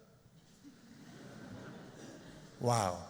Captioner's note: laughter